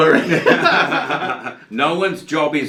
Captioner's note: laughs